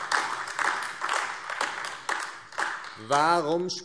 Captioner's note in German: Beifall AfD